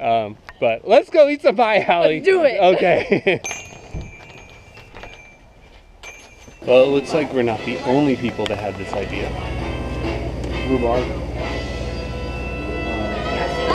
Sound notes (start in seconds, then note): 3.4 sound of bells ringing